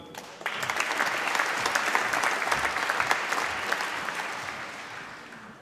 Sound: applause

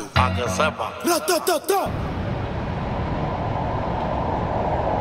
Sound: viento

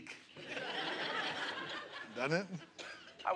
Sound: laughter

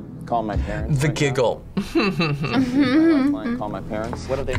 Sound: laughs; both laugh

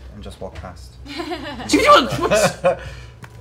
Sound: laughs; yelps

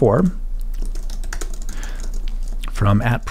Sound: typing

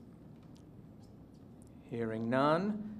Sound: silence

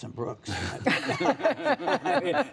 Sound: laughter

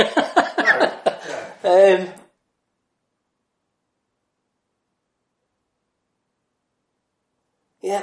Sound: laughs

